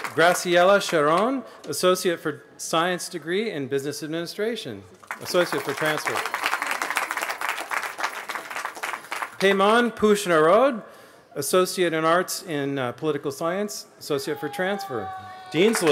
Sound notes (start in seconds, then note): 6.9 applause